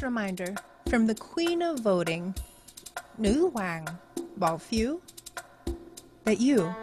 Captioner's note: speaks in foreign language